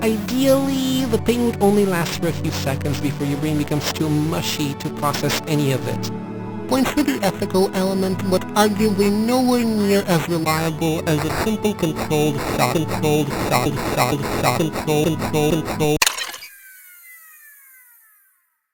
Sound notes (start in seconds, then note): 12.9 bitcrushed, stuttering; 15.4 whirring, descending tone